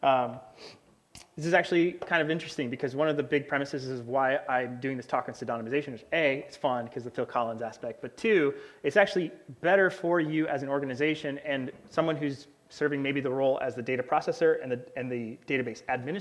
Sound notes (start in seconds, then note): none